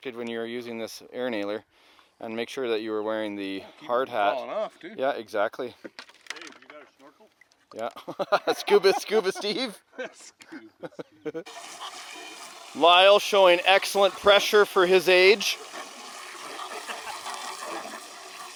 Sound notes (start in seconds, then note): 10.9 laughing